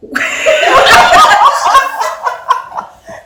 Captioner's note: audience laughing